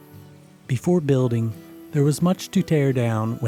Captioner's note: voiceover